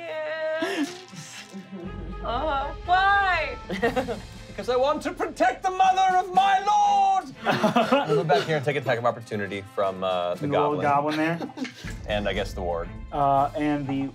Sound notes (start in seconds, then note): 7.4 laughing